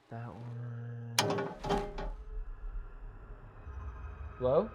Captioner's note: object rattling; suspenseful music